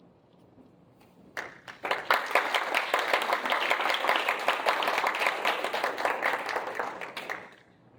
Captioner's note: applause